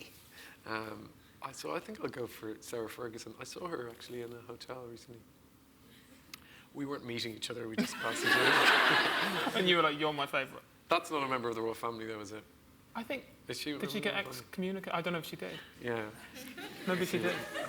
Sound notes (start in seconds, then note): 7.8 laughs